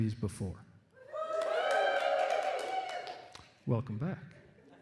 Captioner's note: applause and cheering